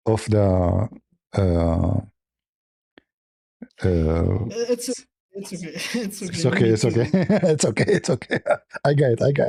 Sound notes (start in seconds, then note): 6.4 laughter